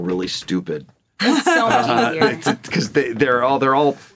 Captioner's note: laughs